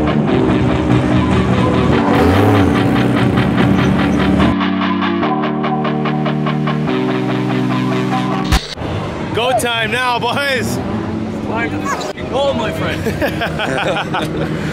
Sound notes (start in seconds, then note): 0.5 engine revving